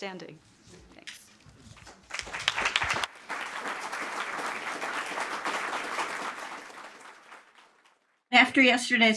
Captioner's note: applause